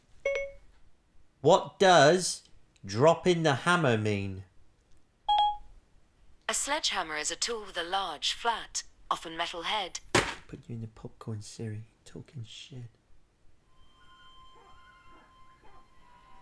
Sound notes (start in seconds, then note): 5.3 SIRI beeps obediently; 10.1 loud thud